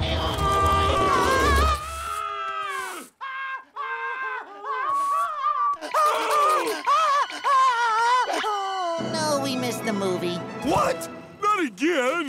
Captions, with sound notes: [screaming] [screaming] Oh, no, we missed the movie. What? Not again.